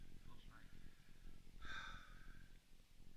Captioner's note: exhales